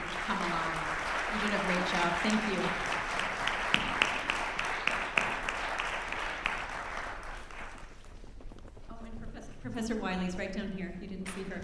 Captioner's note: applause